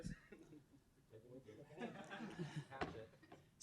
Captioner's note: people chuckling